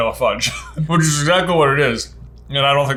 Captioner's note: laughs